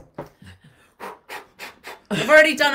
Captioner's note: exhaling quickly